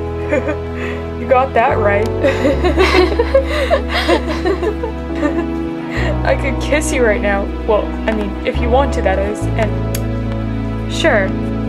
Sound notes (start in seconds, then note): 2.3 laughing; 2.3 laughs; 10.4 kiss